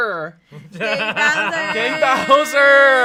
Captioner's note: laughs